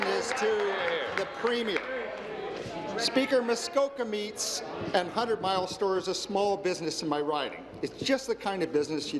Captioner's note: applause